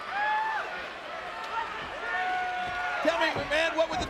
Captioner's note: crowd cheering